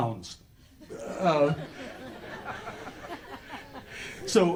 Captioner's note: audience laughter